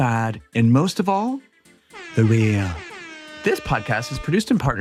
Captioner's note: lively upbeat music; siren blaring